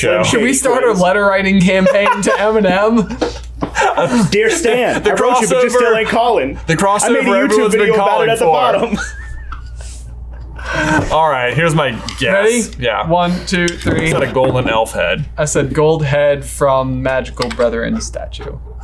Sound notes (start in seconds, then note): 9.5 all laughing